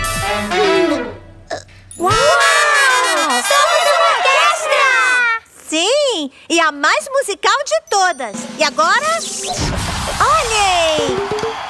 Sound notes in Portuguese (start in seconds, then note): 0.0 Música Alegre; 2.8 Som buzina; 11.5 Música Alegre